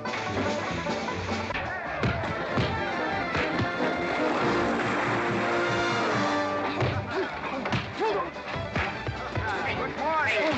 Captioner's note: splash; sounds of scuffling & fighting; western fight music